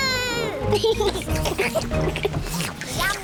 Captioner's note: all slurp